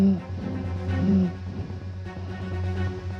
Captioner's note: panting